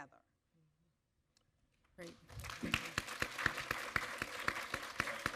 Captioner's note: audience applaud